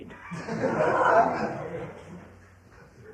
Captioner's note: laughter